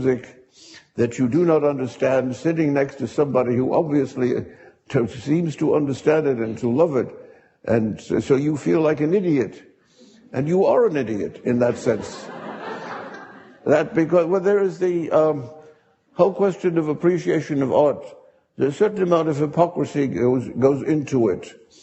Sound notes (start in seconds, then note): 11.5 audience laughing